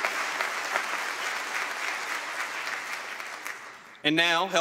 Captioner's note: applause